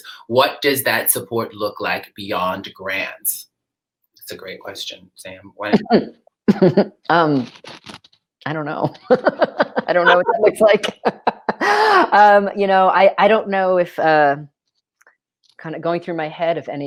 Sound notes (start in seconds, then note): 6.0 chuckles